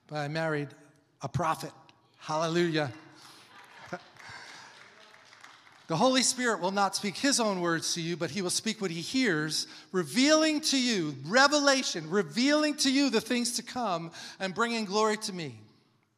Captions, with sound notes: But I married a prophet. Hallelujah! (congregation applauding) "The Holy Spirit will not speak His own words to you, but He will speak what He hears, revealing to you," revelation, "Revealing to you the things to come and bringing glory to Me."